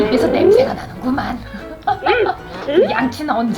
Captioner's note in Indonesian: tertawa